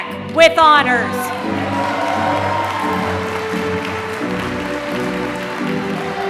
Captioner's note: applause